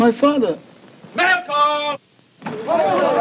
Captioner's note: soldiers chattering